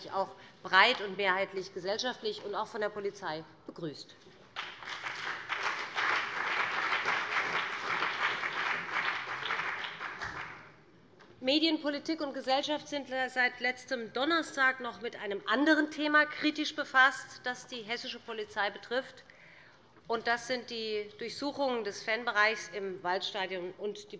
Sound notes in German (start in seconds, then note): 4.5 Beifall BÜNDNIS 90/DIE GRÜNEN und vereinzelt CDU